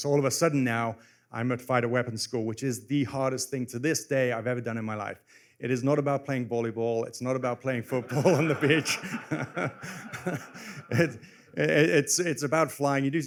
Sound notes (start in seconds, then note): 7.9 laughter